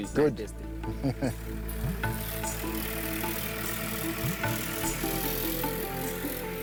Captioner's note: dreamy music continues; vehicle engine sputtering; chuckles